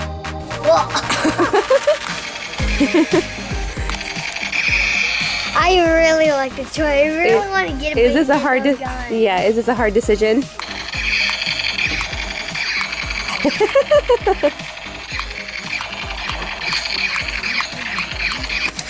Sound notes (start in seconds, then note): 2.6 mom laughs; 3.8 toy laser gun sound effects; 10.6 toy laser gun sound effects; 13.3 mom laughs